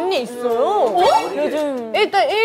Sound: surprised

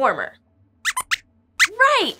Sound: squeaks squeaks

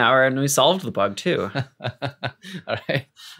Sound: laughs

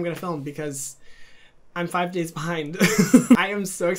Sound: laughing

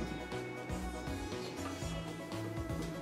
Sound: whisper caught on tape

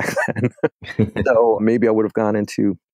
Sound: both laugh

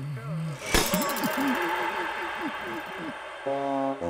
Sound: springs springing! Crowd cheering!

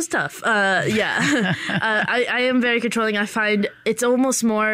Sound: laughter

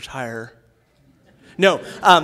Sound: laughter

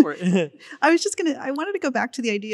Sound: laughing

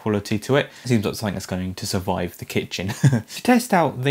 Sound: laughing

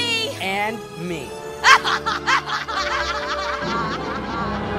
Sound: witch laughs

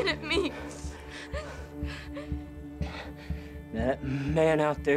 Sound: taking deep breaths

